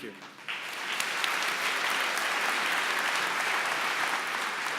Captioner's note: applause